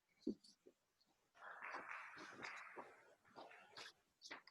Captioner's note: audience clapping